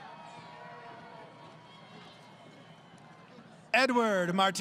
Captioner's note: crowd Cheering